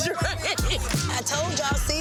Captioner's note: woman laughing